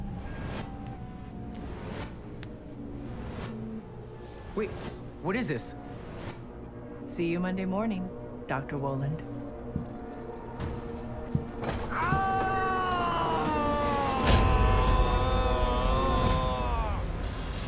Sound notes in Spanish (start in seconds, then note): 11.8 Gritos